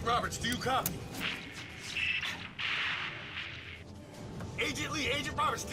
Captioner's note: static and squeals